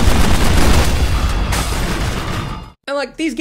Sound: explosion

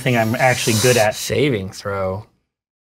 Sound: sucks air through teeth

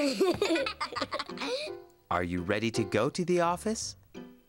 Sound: giggles

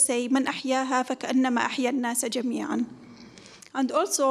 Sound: speaks in foreign language

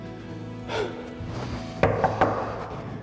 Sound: knock on the door

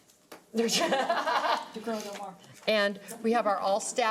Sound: laughing

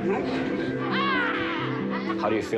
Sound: muffled group chattering; boy shouting

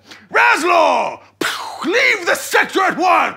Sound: makes shooting sound

